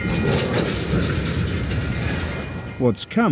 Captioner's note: train rumbling